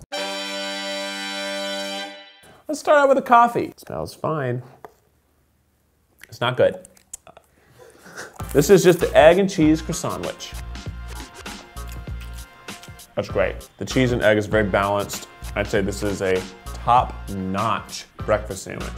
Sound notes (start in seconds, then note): 0.0 trumpet blaring; 6.3 sips coffee